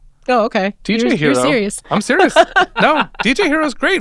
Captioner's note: laughing